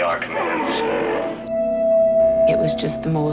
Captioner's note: Entity groans